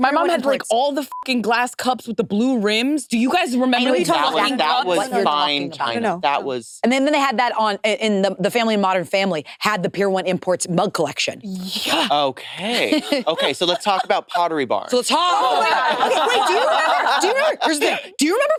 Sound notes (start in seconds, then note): 1.1 beep; 14.8 participants chattering